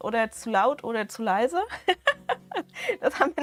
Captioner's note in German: Gelächter